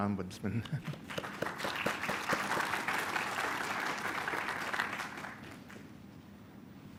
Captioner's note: applause